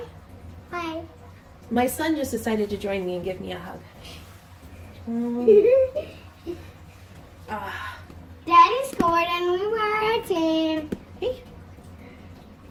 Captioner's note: giggles